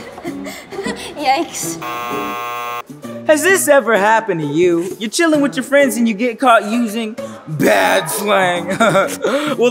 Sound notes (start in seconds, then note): 0.0 giggling; 1.8 negative buzzer sounds; 8.6 laughs